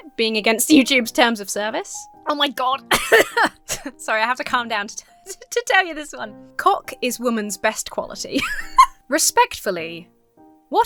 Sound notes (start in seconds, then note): 2.9 coughs; 8.3 laughs